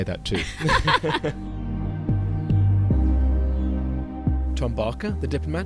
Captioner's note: voiceover